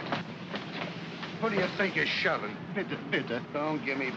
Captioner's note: man speaks in German